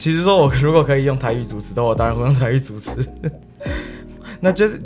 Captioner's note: Mandarin